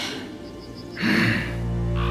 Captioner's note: schnaubt; snorts